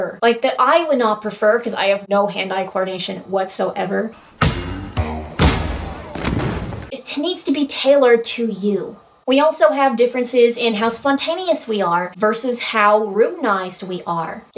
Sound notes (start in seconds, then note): 4.2 pow